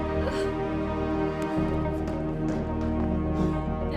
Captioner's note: Susan groaning